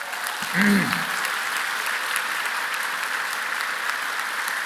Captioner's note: applause